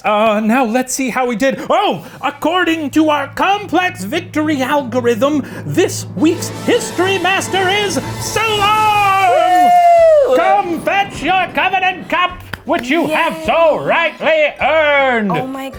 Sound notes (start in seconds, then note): 8.4 cheering